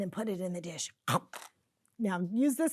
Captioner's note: imitates biting noise